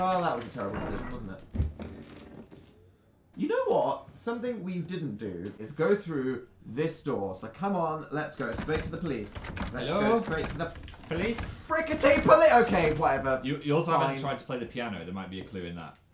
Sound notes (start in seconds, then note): none